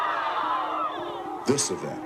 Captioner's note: screams